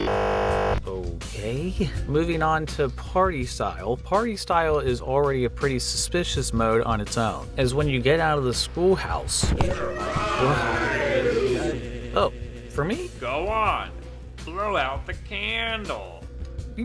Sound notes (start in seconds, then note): 1.2 glitching noise